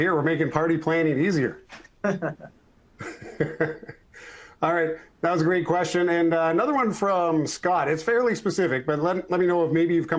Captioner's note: laughters